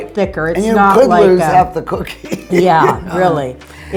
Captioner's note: laughing